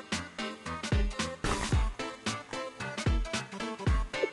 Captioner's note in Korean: 와작